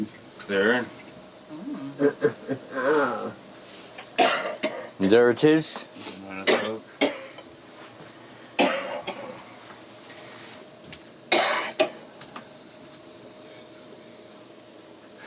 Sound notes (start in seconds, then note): 1.6 chuckling; 8.1 coughing